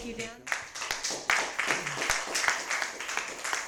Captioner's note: applause